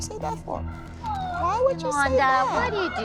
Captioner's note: crying